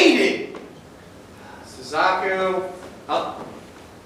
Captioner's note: sighs